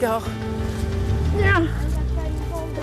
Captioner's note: grunts